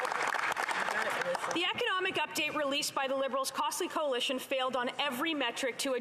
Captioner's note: some Applause